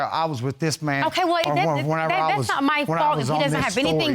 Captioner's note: stutters